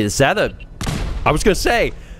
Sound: pfoom!

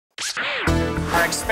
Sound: sound Effects

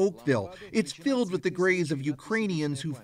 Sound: speaking russian

